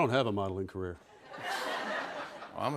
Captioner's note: laughter